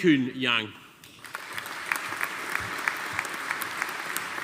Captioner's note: audience applauding